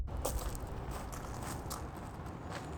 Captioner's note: gravel crunching